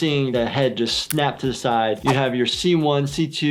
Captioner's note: snapping noise